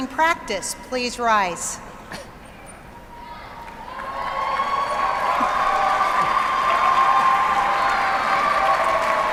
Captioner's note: applause